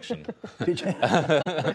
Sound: laughter

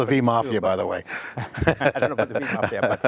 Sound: laughs

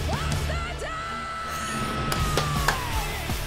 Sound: happy noises and clapping

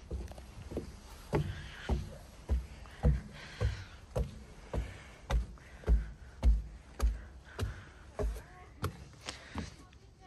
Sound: walking asmr

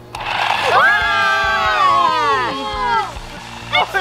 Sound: cheering

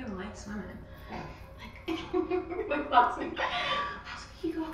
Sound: laughs

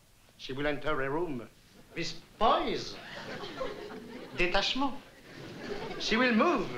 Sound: french

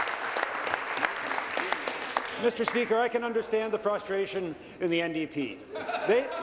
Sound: applause

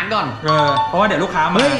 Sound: pat

